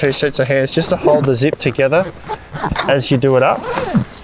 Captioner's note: zip hissing